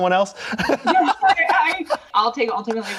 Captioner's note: laughs